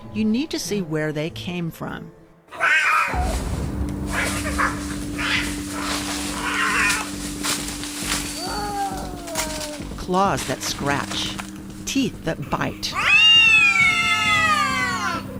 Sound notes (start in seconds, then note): 2.5 yowling angrily; 3.9 hissing; 4.1 growling; 7.4 hissing, yowling; 12.9 meowing angrily